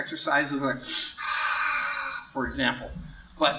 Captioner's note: noisy exhale